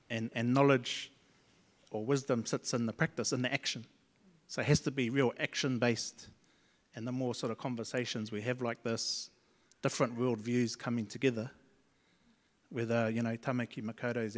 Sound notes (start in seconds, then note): none